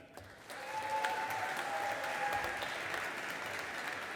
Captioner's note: audience applauding